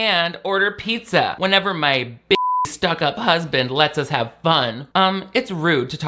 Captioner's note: beep